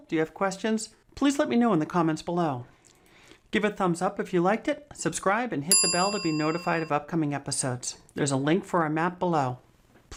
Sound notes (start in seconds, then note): 5.7 bell rings